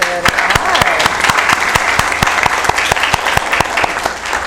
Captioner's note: applause